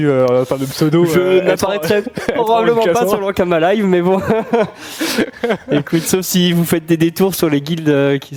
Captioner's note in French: rires